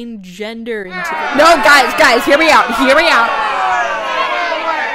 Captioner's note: crowd booing